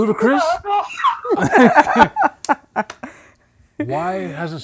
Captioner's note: laughing